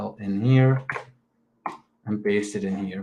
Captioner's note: keyboard clicks